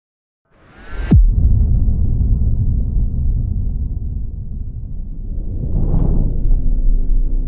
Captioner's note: logo whooshes